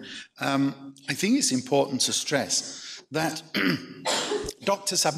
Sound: clears throat

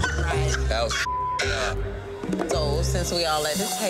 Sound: laughing; beep

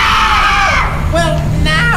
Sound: screaming

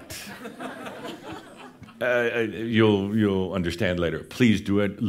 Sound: more chuckles; some giggles

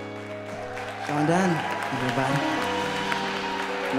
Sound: applause

